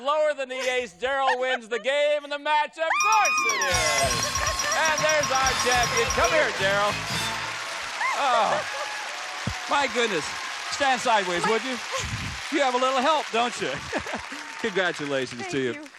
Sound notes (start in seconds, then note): 3.0 theme music playing; 3.9 applause